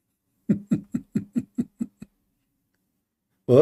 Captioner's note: Ketawa